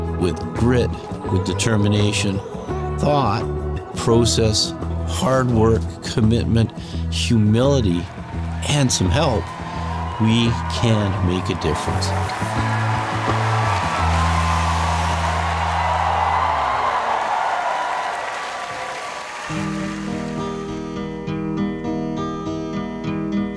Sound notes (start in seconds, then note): 12.9 crowd cheering; 12.9 light upbeat music